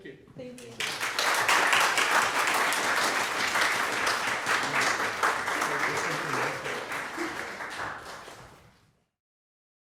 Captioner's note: audience applauding